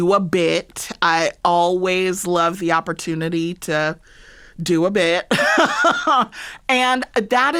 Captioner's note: laughter